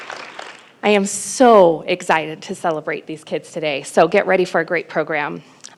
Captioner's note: applause